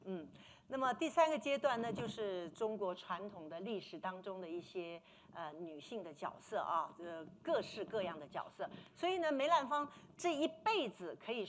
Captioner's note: speaking Mandarin